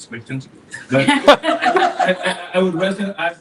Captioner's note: laughter